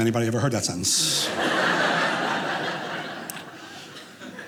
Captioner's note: audience laughing